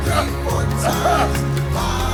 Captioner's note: Florio coughs